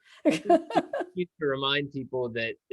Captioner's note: laughing